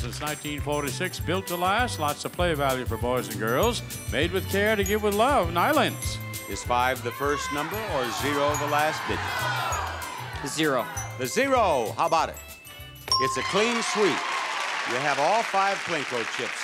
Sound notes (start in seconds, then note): 13.0 sound effect dings